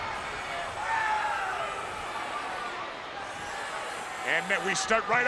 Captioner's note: spectators cheering